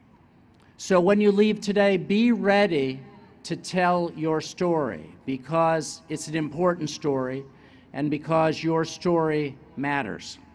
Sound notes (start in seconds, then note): none